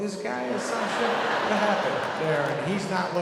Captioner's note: audience laughing